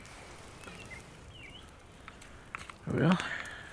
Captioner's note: birds chirping